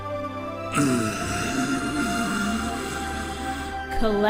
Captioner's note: Yami voice; Kaiba grumbling